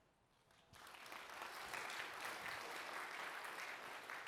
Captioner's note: applause